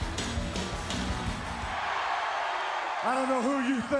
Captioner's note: crowd cheering